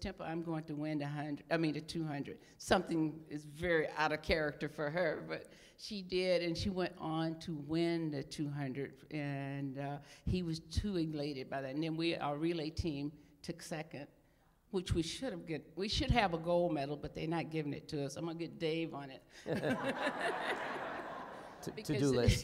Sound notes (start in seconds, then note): 19.4 laughter